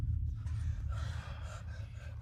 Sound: sighs

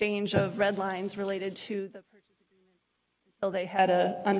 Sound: audio cuts out

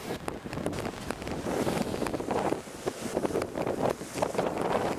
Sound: unbearable wind noises

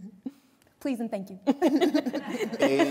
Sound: laughter

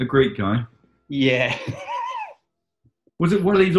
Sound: laughing

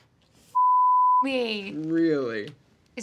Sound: beep

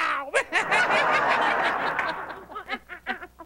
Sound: laughter

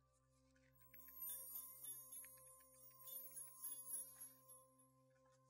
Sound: twinkles

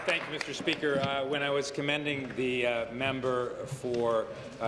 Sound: applause

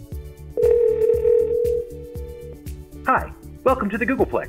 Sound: phone ringing

